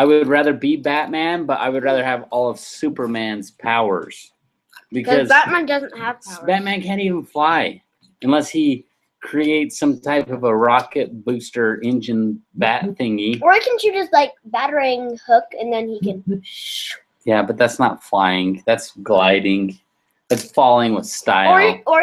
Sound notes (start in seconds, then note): 16.8 whooshes